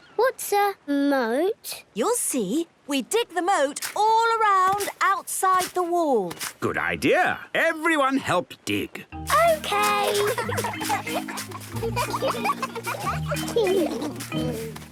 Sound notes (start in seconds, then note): 9.7 giggling